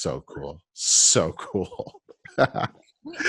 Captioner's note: laughs